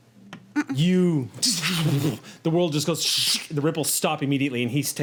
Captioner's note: whooshing; whooshes